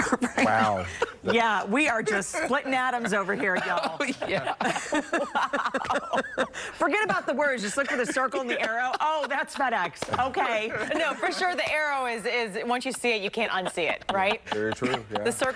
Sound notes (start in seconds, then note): 9.5 laughter